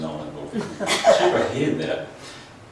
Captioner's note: laughs